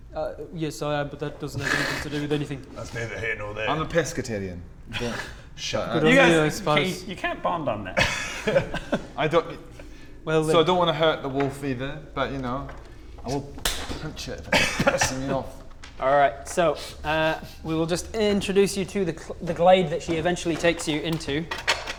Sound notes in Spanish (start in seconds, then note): 13.6 smack